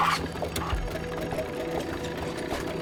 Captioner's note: engine starts